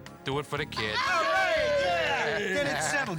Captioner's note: all cheering